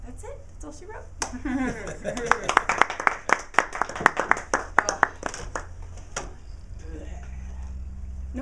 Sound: laugh

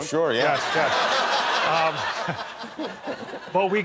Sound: laughter

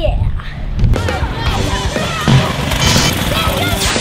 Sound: engines roaring; upbeat rock music

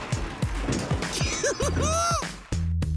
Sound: giggling

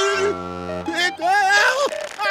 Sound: screaming

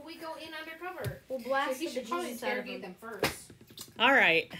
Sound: multiple voices

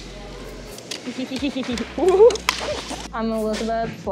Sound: kids laughing

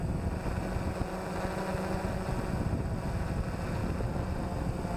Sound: rushing wind; whirring drone engine

